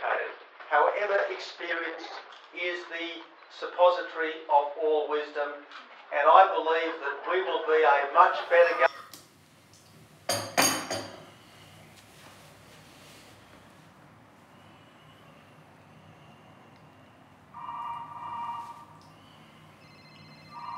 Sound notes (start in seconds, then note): 17.4 one phone off screen begins ringing; 20.3 several more phones in the office off screen begin ringing